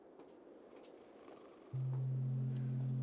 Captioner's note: snoring